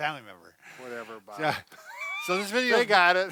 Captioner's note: laughing